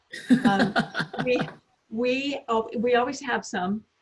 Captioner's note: laughs